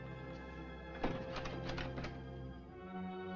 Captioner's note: rattles Doorknob